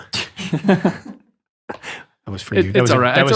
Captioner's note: laughing